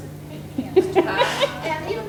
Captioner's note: everyone laughing